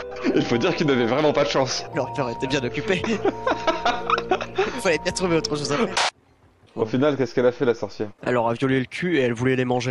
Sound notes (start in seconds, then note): 2.8 laughs